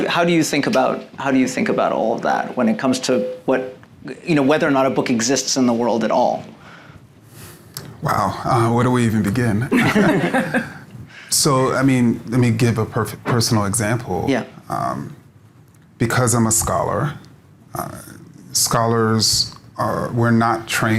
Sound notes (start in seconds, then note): 9.7 laughing